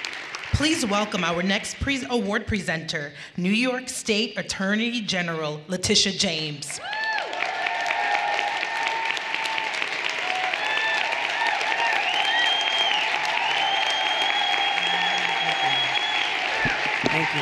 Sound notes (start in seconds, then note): 7.2 everyone cheering and applauding; 12.4 audience members whistling and cheering